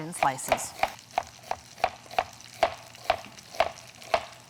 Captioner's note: knife clacking